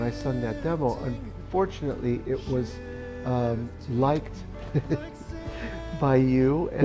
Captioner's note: giggles